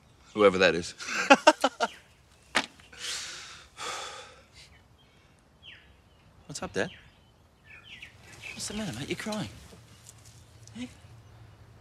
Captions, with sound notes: WHOEVER THAT IS. [Laughs] [Sighs] WHAT'S UP, DAD? WHAT'S THE MATTER, MATE? YOU'RE CRYING.